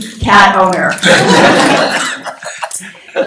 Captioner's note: laughter